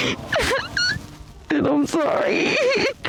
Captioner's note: muffled crying